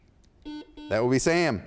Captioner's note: buzzer sounds